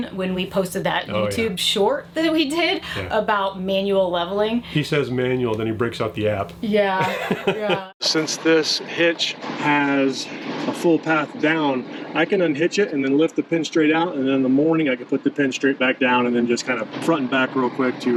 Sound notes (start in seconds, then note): 6.9 laughs